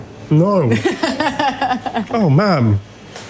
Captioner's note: laughs